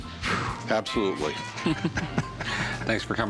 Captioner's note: laughter